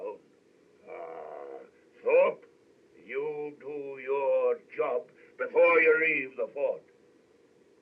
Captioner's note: groans